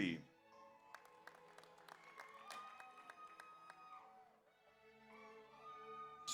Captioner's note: audience applauds; audience cheers